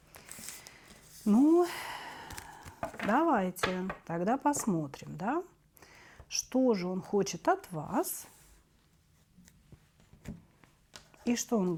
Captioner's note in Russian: вздыхает